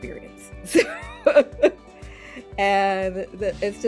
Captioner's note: laughing